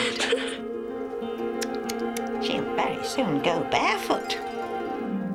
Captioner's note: tutting